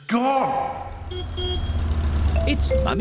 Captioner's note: horn honks